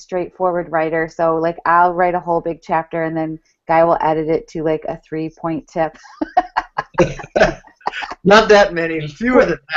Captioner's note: laughs